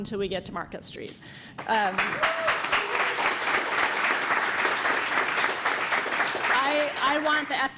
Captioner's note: applause